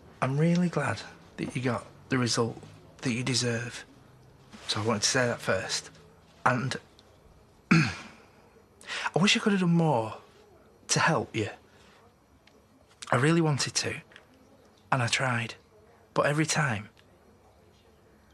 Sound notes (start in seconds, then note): 7.7 clears his throat